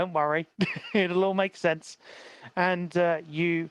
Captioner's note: laughs